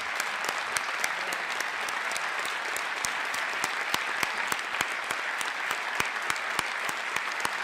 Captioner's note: applause